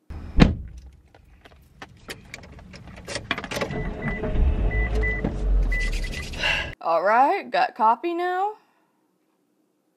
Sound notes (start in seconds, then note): 1.5 car engine starts; 6.2 lets out breath